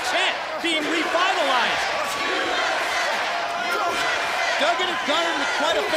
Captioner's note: crowd cheering